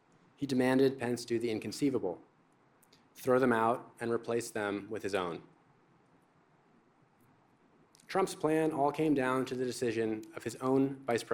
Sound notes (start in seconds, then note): none